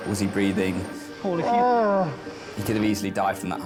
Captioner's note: victim groaning